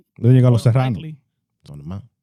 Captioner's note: speaking In Foreign Language